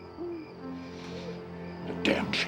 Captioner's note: sniffles